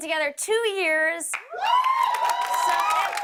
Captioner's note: cheers and applause